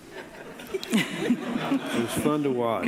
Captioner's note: audience laughing